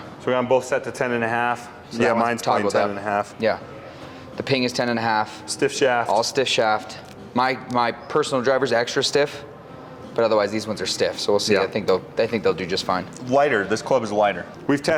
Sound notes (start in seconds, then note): none